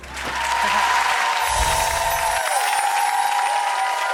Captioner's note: audience applauds